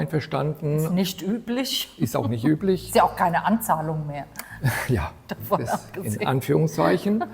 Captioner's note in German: gelächter